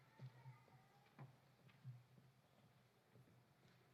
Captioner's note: none